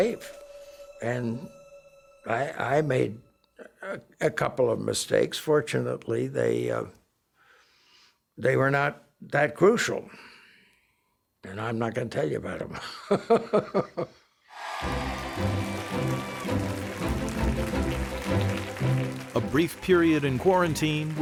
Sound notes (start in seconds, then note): 12.8 chuckling; 14.5 cheering